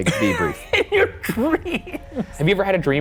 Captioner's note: laughing